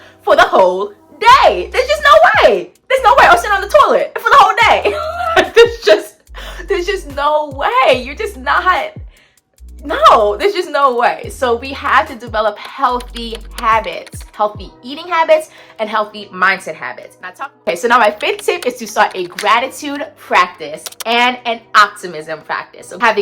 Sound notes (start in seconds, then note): 4.8 laughing